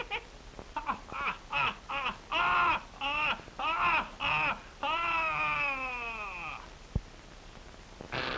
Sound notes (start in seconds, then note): 0.0 hearty laughing